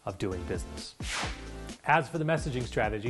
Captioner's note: air whooshing